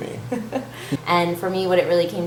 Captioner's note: giggles